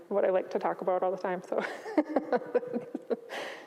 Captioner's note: chuckles